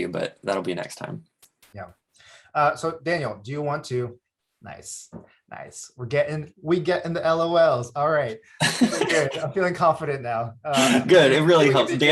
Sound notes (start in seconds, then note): 8.6 laughs